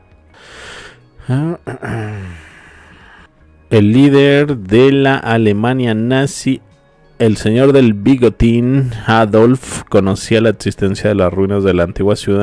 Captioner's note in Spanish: carraspeo